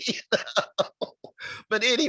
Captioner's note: chuckling